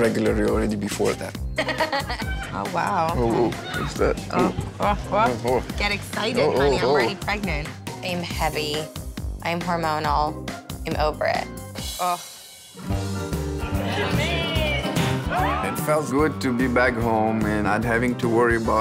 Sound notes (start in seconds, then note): 1.5 laughs; 12.8 mid-tempo music playing